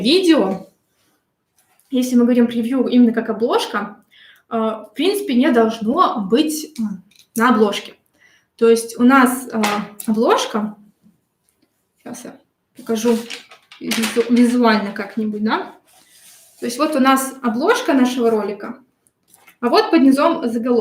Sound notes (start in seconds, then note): 12.8 шелест бумаги